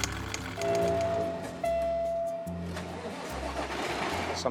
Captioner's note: machine clicking; truck beeping; truck revving